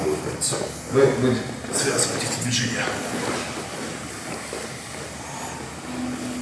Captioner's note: speaking in a foreign language